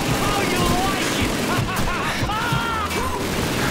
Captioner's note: maniacal Laughter